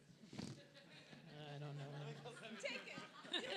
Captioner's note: audience laughs